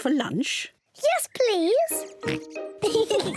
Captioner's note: oinks; both laugh